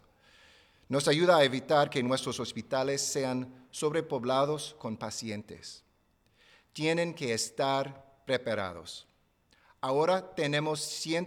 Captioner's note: speaking spanish